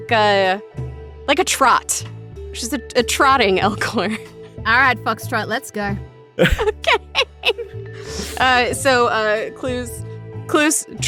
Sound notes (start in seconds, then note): 7.5 through laughter